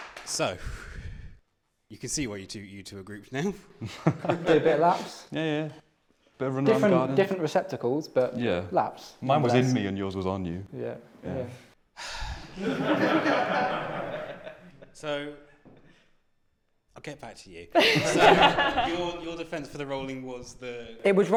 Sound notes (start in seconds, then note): 12.0 sighs; 12.5 laughter